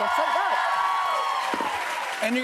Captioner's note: cheers and applause